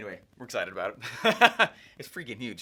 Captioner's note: laughs